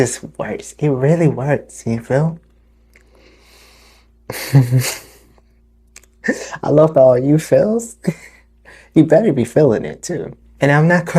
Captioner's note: chuckle